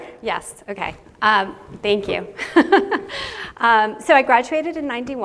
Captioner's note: chuckles